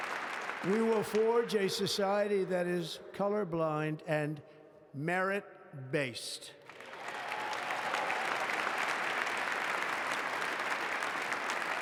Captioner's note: applause